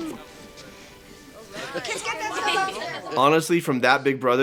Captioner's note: family chatter